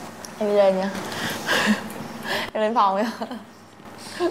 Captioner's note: laugh